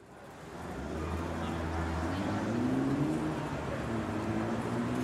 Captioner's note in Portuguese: Ruídos da cidade